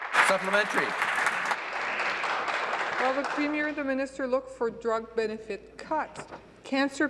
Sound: applause

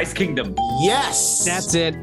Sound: bell rings

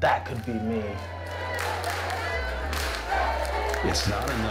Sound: students cheering and clapping

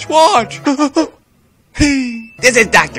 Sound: ding

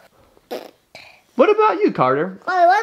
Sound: blows raspberry

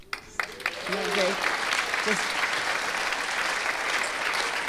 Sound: audience applauding

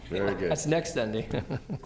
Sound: laughter

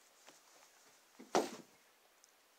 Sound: thud

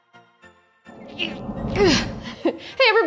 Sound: grunts

